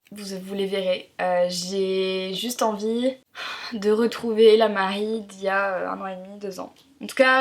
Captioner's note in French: soupir